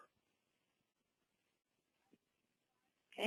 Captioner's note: pause